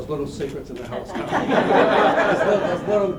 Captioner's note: laughter